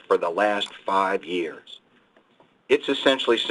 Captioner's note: mouse click